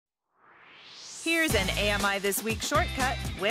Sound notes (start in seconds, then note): 0.2 swoosh